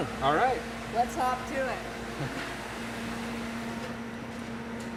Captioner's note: laughs